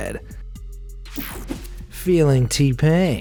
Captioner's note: air whooshing